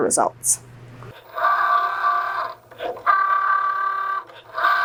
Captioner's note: machine whirring